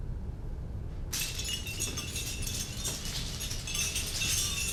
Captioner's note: jingling bells